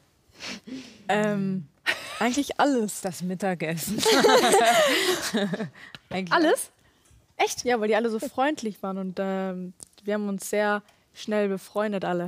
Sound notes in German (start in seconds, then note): 4.0 Lachen